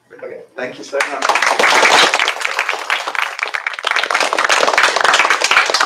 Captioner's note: applause